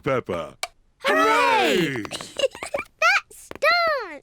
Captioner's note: giggles